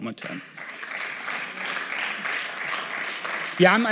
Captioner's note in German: Beifall